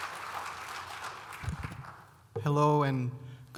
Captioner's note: audience clapping